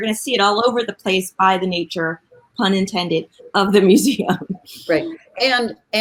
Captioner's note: laughs